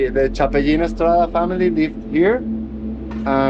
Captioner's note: speaking Spanish